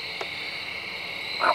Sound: light clicks

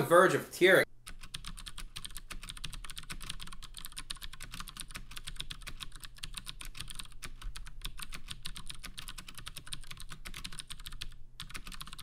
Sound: typing sounds

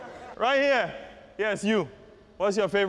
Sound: laughter

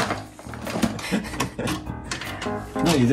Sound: laughter together

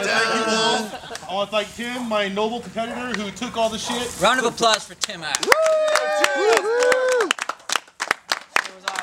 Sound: applause

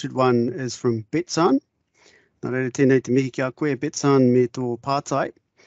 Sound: speaking in te reo Māori

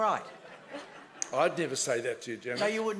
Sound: laughing

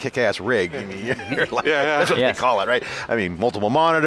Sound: laughs

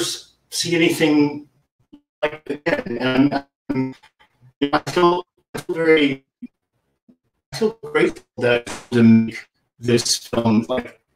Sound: distortion

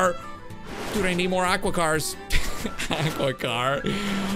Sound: laughs

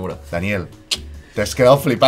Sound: kiss

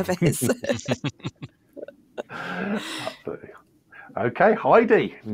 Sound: laughter

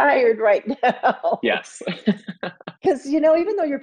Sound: Joan Allen laughs

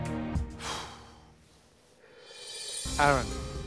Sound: sighs

